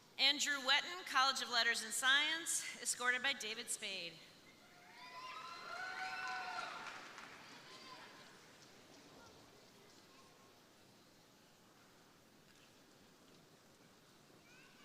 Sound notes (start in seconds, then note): 4.6 crowd cheering; 5.1 crowd applauding